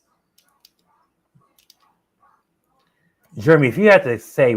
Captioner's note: clicking